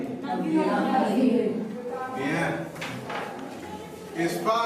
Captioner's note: speaks softly